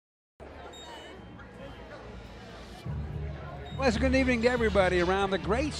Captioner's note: crowd murmuring